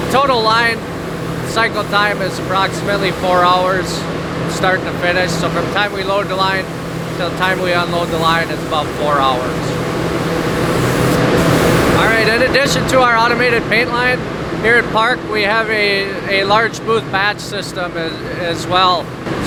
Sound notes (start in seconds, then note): 10.2 buzzing sound